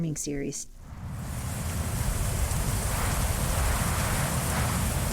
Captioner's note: rain pattering